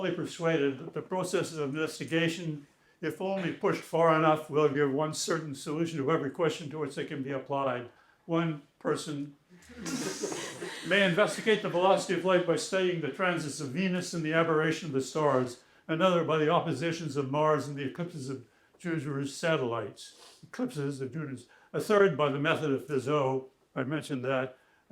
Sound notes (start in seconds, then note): 9.6 laughter